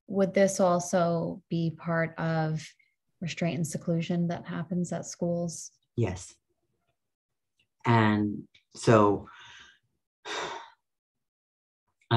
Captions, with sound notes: - Would this also be part of restraint and seclusion that happens at schools? - Yes. And so, (sighs)